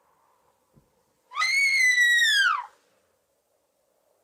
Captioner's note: screams